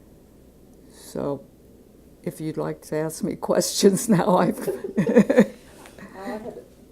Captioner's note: laughing